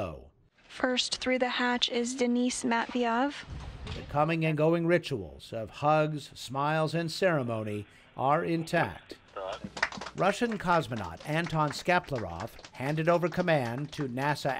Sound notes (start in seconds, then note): 9.5 applause